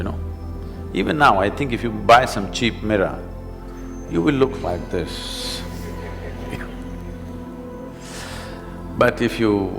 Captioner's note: laughter